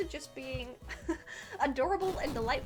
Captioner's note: chuckles